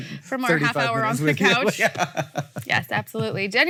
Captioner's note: laughs